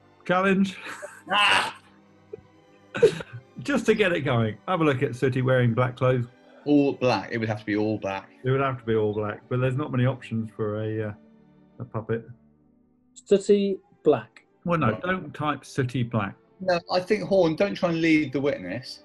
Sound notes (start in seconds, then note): 3.0 laughing